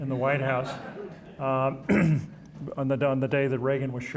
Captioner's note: audience chuckling